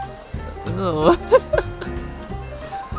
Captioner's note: laughs